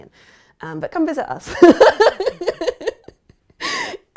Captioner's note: laughs